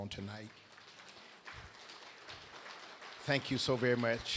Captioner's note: applause